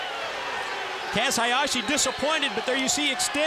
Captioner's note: crowd cheering